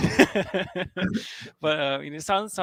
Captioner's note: laughing